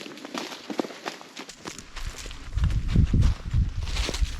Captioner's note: leaves rustling